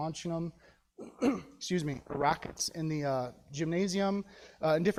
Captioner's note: clears throat